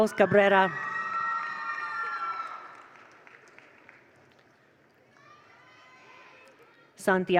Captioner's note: attendees cheer; attendees applaud